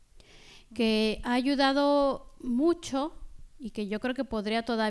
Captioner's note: speaking spanish